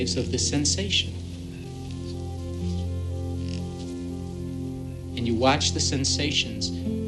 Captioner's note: whispering